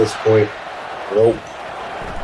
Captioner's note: crowd Noises